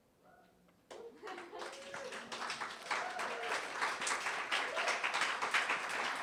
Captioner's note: audience cheering and applauding